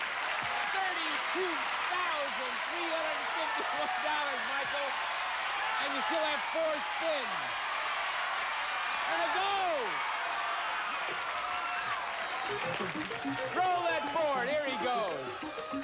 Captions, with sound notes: $32,351, MICHAEL. [cheers and applause] AND YOU STILL HAVE FOUR SPINS. AND A GO! [upbeat arcade game music] ROLL THAT BOARD. HERE HE GOES.